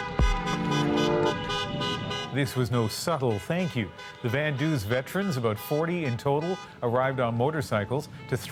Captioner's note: horns honking